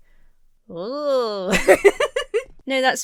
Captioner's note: Emma laughs